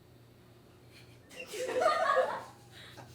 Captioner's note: laughing